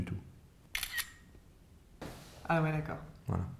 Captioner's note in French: Clic d'une photo